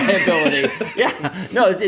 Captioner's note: laughter